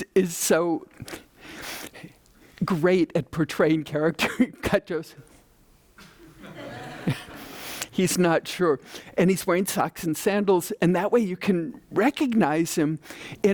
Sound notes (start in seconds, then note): 6.2 audience laughing